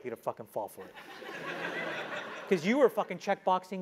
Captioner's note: laugh